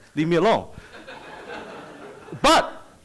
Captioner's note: audience laughs